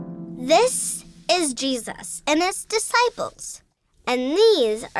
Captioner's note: harp strumming; voiceover